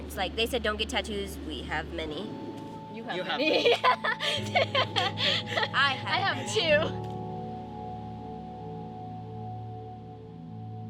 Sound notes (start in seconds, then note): 3.4 laughs; 8.2 gentle music